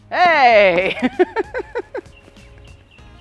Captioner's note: laughter